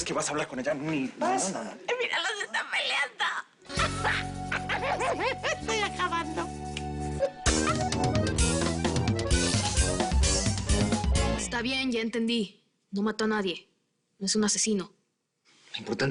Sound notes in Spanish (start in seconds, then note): 3.7 Risas